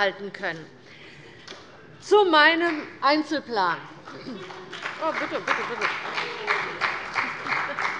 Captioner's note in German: Beifall bei der CDU und dem BÜNDNIS 90/DIE GRÜNEN